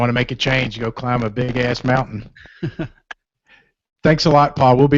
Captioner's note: laughter